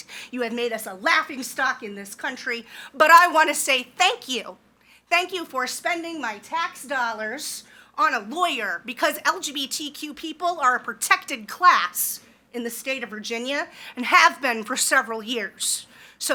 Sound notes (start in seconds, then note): none